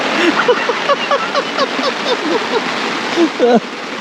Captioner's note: all laughing